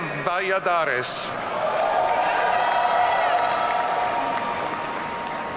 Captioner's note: audience cheering